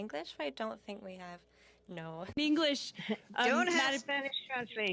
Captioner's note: speaking French